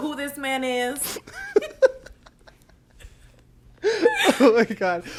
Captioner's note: both laugh